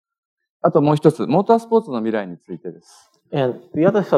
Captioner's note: speaking japanese